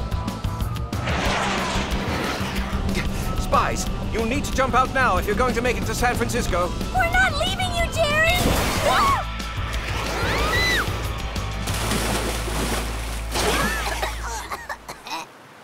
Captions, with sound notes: Spies, you'll need to jump out now if you're gonna make it to San Francisco. We're not leaving you, Jerry! [ALL SCREAM] [COUGHING]